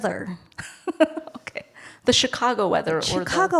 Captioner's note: laughs